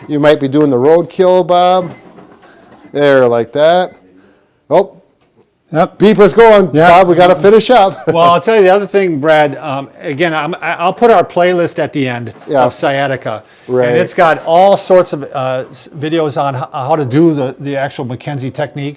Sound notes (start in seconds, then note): 0.8 alarm beeping; 7.9 chuckles